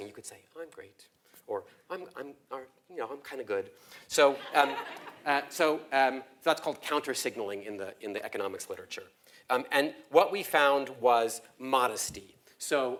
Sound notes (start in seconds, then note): 4.2 laugh